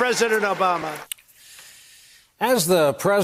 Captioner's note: crowd booing